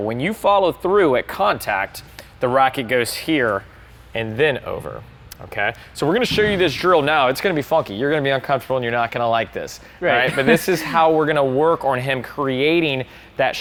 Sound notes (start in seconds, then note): 10.1 laughs